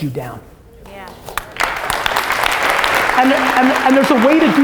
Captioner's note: audience applause